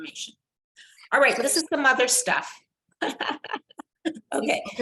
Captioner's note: laughs